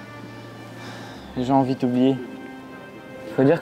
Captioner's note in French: Soupir